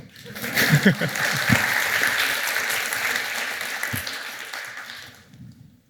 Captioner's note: applause; chuckles